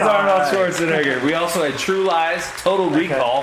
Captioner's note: audience applauds